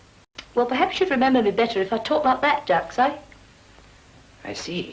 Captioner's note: cockney voice